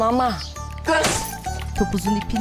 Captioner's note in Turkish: Vurma sesi